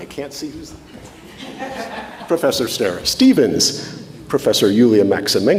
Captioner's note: audience laughs